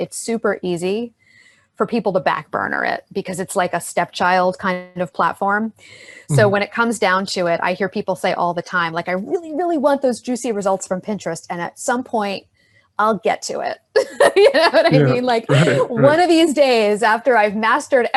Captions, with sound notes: it's super easy for people to back-burner it, because it's like a stepchild kind of platform. So when it comes down to it, I hear people say all the time like, "I really, really want those juicy results from Pinterest, and at some point I'll get to it." (laughs) You know what I mean? - Yeah, right. - Like "one of these days after I've mastered